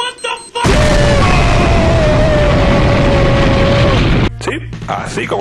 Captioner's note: SOUND: Explosion